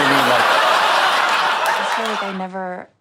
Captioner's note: audience laughs